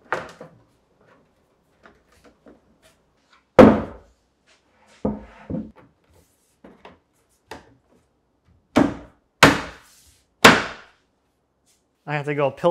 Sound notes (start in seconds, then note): 3.6 plywood thudding and creaking; 10.4 plywood thudding sharply